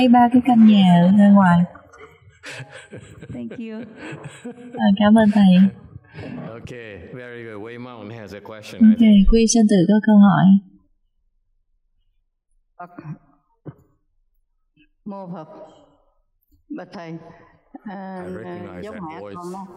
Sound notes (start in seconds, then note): 0.1 laughter